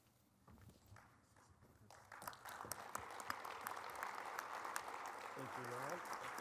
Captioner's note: applause